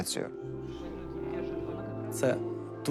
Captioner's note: team chattering